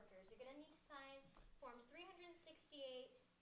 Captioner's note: none